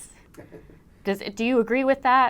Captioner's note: chuckles